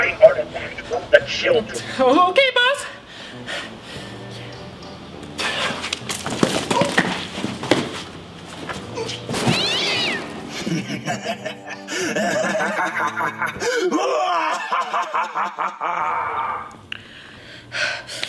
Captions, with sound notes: Now, go retrieve my artifact from the children. - Okay boss! (laughs)